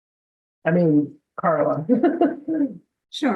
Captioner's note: laughs